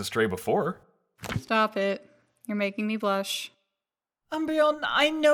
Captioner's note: sarcastically